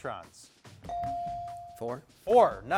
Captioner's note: bell dings